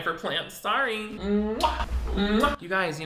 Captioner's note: kissing